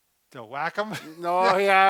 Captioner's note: laughs